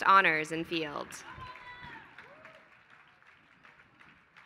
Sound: applause

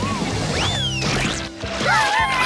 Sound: squealing

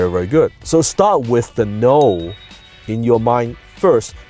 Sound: ding

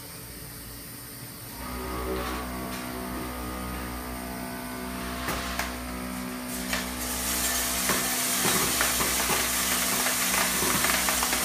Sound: machine running

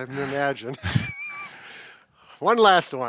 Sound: chuckles

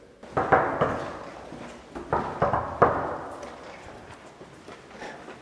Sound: knocking on doors

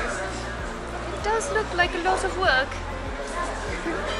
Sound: in a British accent

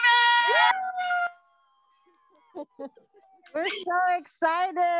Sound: cheering

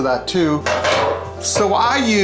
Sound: clanging

